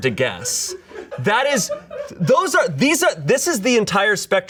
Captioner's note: audience laughing